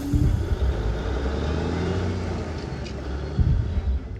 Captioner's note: engines whir